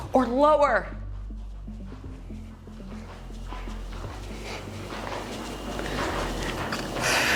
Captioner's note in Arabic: يتنفس بصعوبة